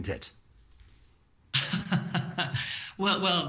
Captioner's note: laughing